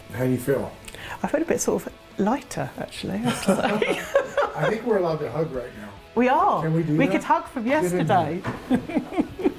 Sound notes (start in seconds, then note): 3.2 both laughing